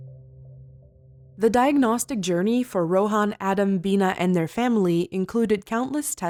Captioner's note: voiceover